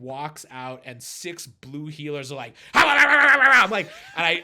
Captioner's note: imitates barking